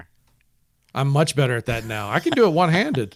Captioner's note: laughs